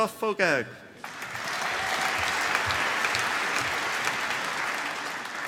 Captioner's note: applause